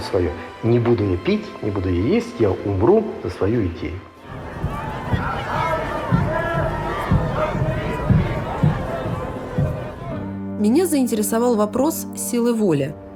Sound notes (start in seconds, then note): 4.2 indistinct crowd chatter